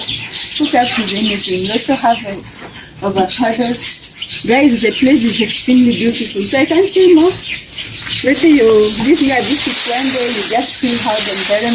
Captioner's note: birds Chirping 😍